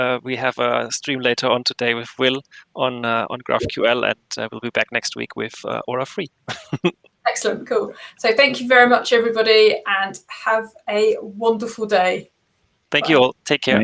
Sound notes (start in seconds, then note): 6.5 laughing